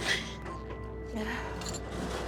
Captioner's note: cries; sighs